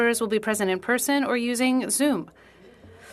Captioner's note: speaking French